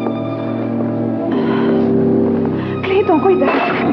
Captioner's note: sighs